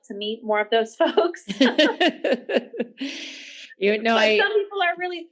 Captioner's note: both laughing